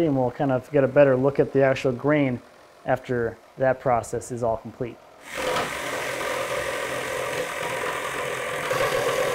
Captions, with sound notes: and we'll kind of get a better look at the actual grain after that process is all complete. (power tool buzzes)